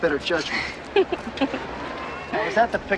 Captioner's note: Ashley laughs